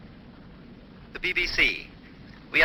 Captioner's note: radio broadcast